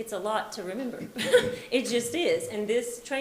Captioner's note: laughs